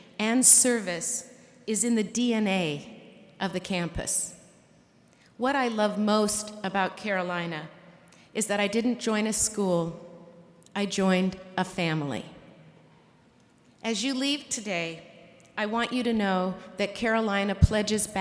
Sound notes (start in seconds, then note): none